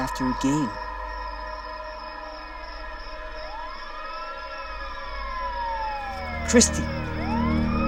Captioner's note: siren wailing